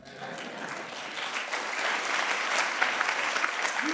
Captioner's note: audience clapping